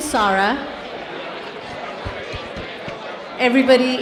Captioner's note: participants chattering